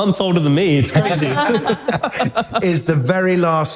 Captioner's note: laughter